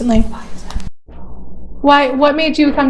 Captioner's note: whispers “why is that?”